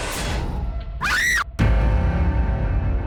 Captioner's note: dramatic musical score; Abby screams; dramatic music